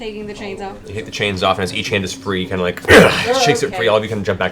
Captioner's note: grunts